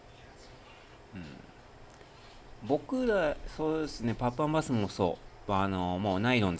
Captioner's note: clears throat